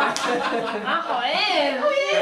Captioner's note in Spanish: risas